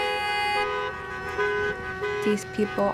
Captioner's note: horns beeping